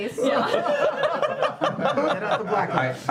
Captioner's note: laughter